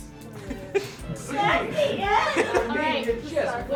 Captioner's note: laughing